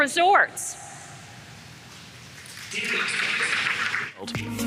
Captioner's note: applause